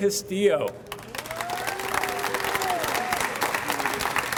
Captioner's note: audience applauds